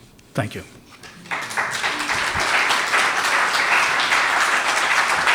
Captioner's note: applause